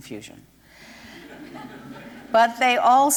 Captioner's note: laughter